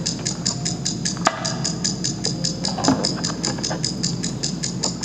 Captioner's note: object clattering